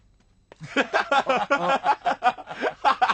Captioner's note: laughter